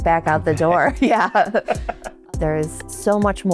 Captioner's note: both chuckling